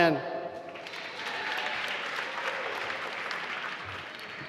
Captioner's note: applause